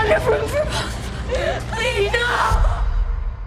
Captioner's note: sobbing